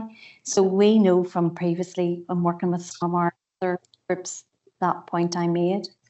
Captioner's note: audio distorts 58.07